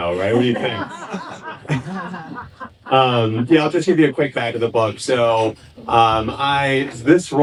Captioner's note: laughing